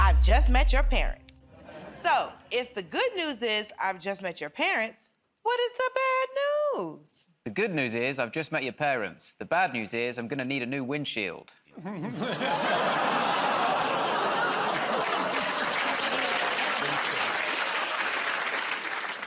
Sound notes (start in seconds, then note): 12.4 audience groans; 14.1 applause